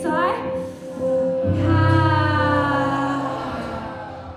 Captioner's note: all sigh